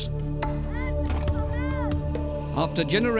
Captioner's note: boy shouting